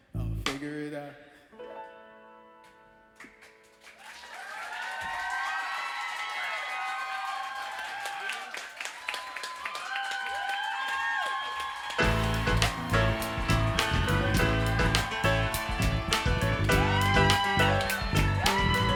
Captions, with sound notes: I'll figure it out. *applause*